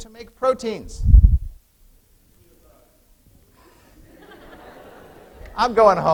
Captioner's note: laughter